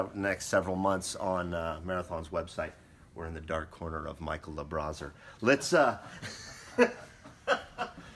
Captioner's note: laughing